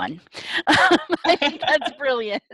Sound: laughter

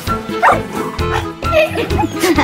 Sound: puppy barks; puppies laughing

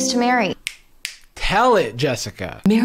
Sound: fingers snapping

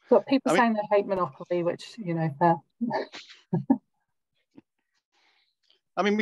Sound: laughs

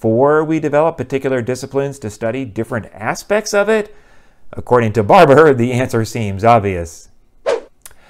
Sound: swoosh

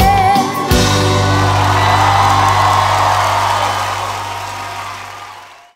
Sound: Música termina, aplausos

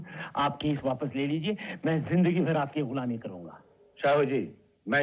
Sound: none

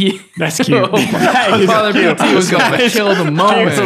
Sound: men chatting

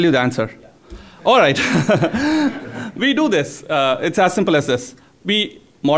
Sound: laughs

